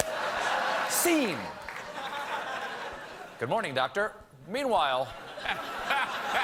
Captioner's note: laughter